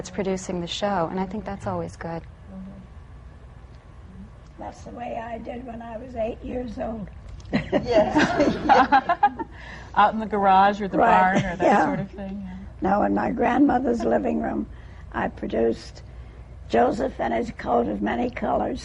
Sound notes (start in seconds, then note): 7.5 laughter